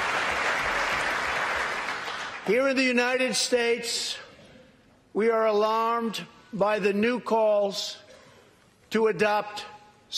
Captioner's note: applause